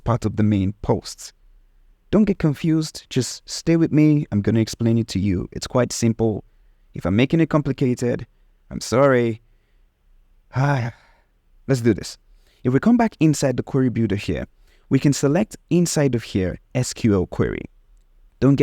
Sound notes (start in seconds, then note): 10.7 sighs deeply